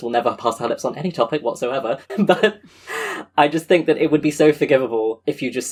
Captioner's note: laughs